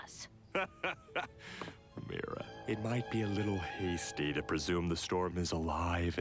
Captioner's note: laughing